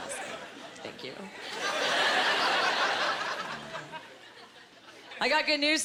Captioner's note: laughing